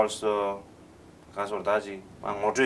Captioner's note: non-english speech